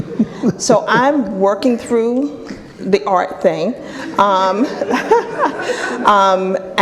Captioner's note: laughing